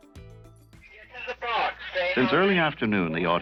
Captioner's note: man speaks into megaphone